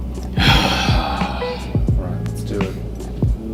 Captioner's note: exhales strongly